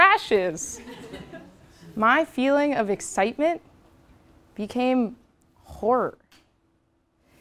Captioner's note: laugh